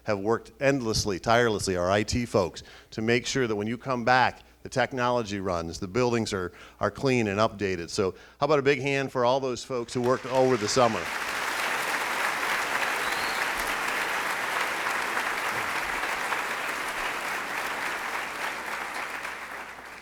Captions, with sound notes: have worked endlessly, tirelessly, or IT folks, to make sure that when you come back, the technology runs, the buildings are clean and updated, so how about a big hand for all those folks who worked over the summer? (applauding)